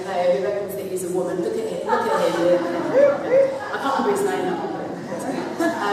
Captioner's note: laughter